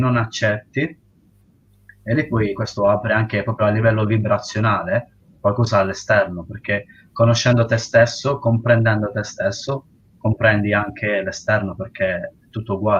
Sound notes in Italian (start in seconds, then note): none